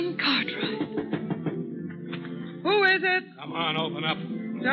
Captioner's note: laughing